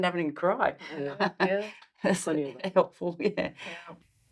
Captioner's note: chuckles